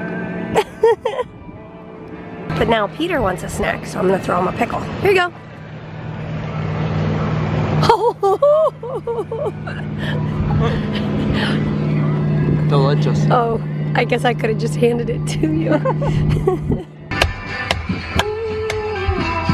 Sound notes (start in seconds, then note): 0.0 music playing in background; 0.5 laughing; 7.8 laughing; 15.6 both laughing; 16.9 music playing in background